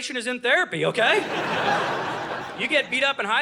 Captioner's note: audience laughing